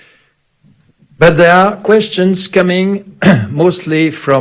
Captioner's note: clears throat